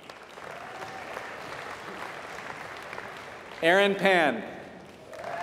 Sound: applause

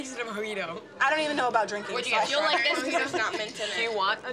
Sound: laughs

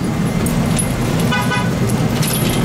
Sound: car horn

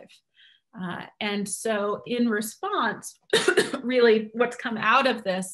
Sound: coughs

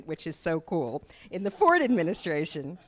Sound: laughter

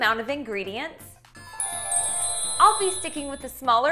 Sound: gently chiming bells

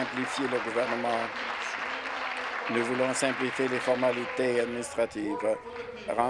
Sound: applause

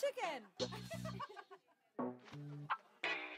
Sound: laughs

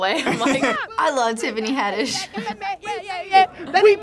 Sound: laughs

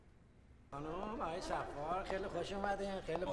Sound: foreign language

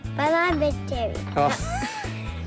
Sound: laughs

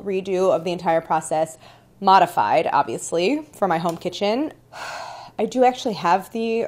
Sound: softly sighs

